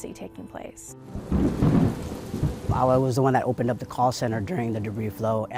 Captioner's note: heavy wind blowing during storm